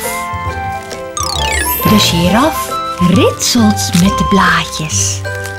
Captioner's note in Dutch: je hoort het geluid van ritselen